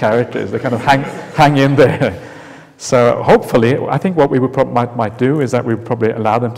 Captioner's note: laughs